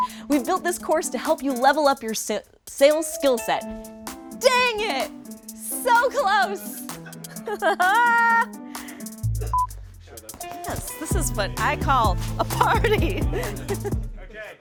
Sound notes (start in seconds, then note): 6.8 crew and host laughing; 12.4 laughs